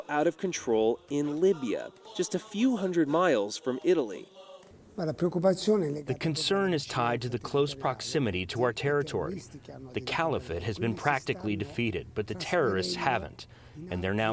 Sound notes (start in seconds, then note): 5.3 through translator